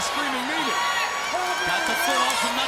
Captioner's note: crowd cheering